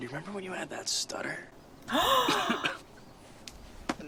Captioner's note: 𝘢𝘴𝘵𝘰𝘯𝘪𝘴𝘩𝘦𝘥 𝘨𝘢𝘴𝘱